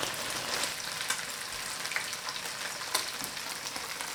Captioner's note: oil popping